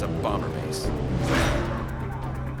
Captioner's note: engine roaring